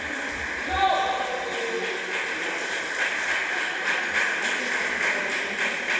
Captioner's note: applause